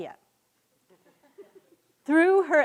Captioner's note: students laughing